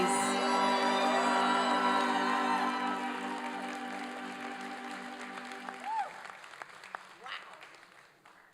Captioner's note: applause and cheering